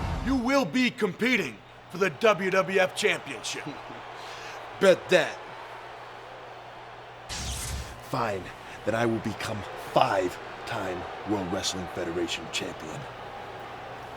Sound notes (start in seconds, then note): 1.8 laughs; 7.3 electricity crackling